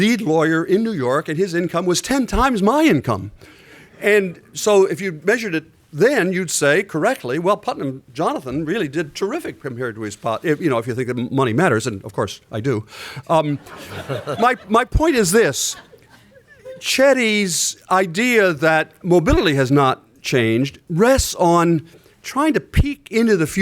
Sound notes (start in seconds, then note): 13.6 laughter